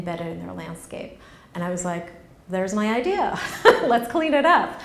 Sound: laughs

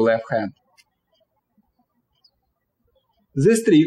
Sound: birds chirping

